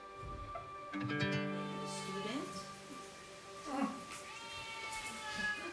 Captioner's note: cat meowing